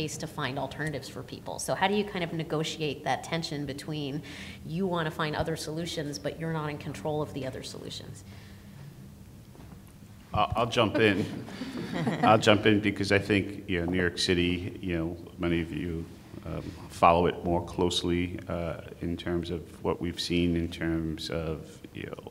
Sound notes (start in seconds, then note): 10.7 audience laughs softly